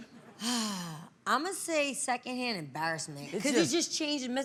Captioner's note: sighs